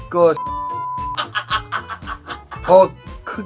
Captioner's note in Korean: 자지러짐